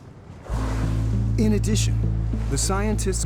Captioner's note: gentle music; water spraying